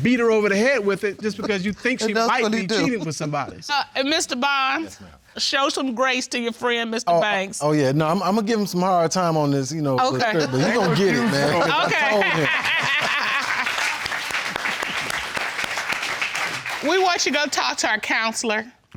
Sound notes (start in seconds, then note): 11.1 indistinct chatter; 12.9 laughs